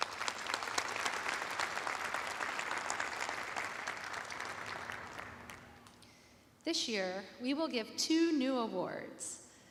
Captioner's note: applause